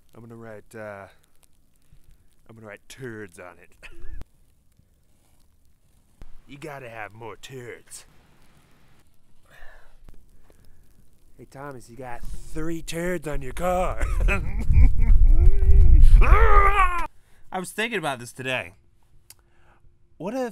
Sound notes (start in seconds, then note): 14.0 maniacal laughter; 16.1 roar